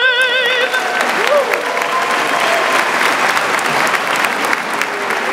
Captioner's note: audience applauding